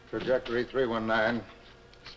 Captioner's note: none